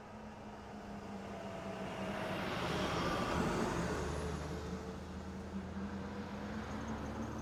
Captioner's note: car sound